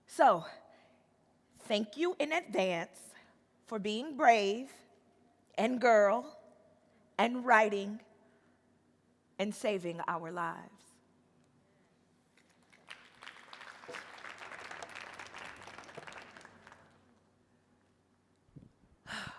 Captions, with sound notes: So thank you in advance for being brave, and girl, and writing, and saving our lives. (audience applauding)